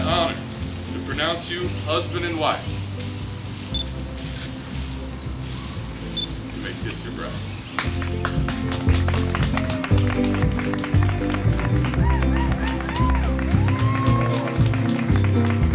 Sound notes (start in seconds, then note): 7.7 applause and cheers